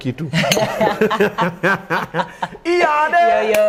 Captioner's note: laughter